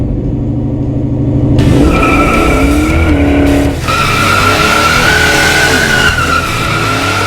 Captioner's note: tires squeal; energetic rock music